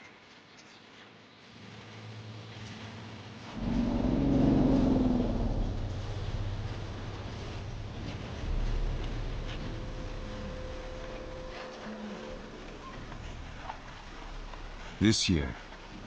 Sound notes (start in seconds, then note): 1.8 dramatic music; 1.8 elephant grunts; 3.6 birds chirping; 4.2 dramatic music